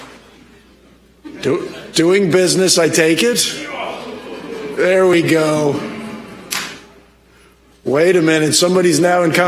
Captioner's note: applause